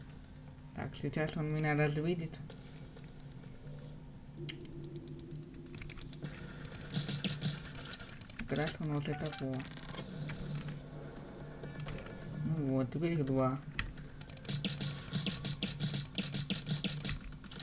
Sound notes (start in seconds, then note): 9.0 phone beeps; 14.4 shots